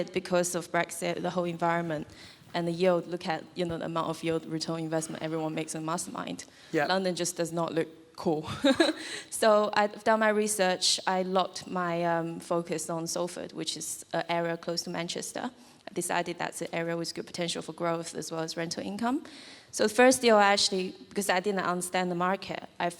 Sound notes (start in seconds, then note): 8.6 laughs